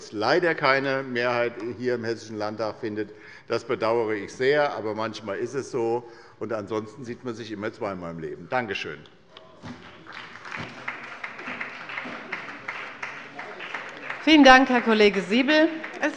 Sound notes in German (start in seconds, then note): 9.6 Beifall bei der SPD